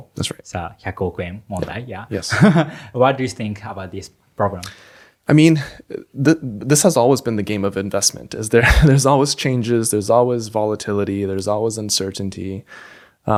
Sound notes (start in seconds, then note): 2.4 laughs; 8.6 chuckles